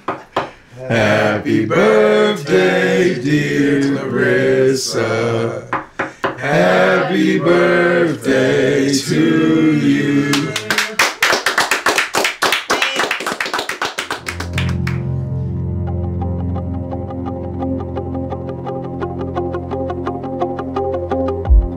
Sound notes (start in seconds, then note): 0.0 knocking on table; 5.7 knocking on table; 10.3 applause